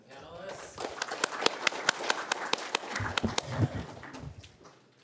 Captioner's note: audience applauding